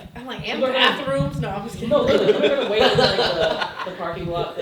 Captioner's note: laughing